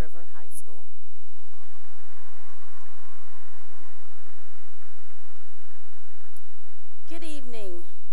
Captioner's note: cheering and applause